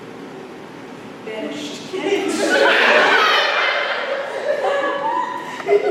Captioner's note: laughter